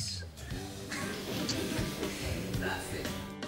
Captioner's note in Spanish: murmullos del público